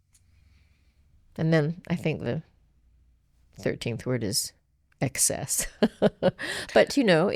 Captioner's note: laughs